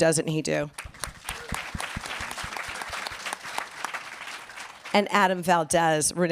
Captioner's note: applause